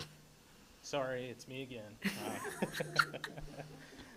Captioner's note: laughs